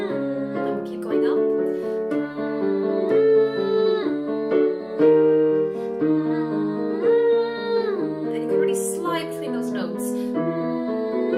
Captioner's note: humming; humming